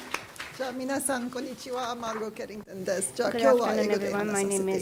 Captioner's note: speaking japanese